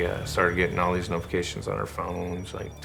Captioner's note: alarm chiming